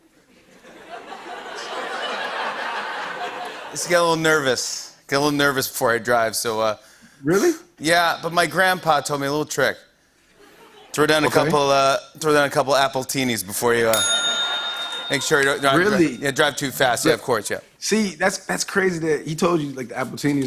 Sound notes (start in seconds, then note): 0.1 laughter; 13.9 bell dings